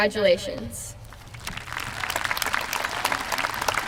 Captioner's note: applause